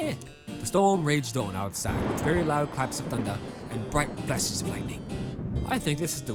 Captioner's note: loud thunder